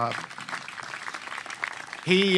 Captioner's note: applause